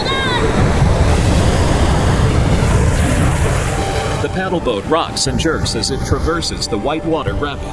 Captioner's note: water churning